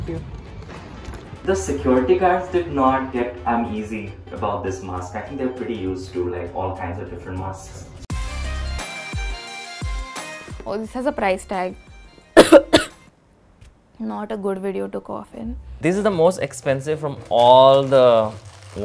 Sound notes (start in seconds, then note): 8.1 upbeat music; 12.3 coughs